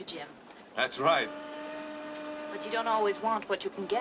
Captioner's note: train steam whistles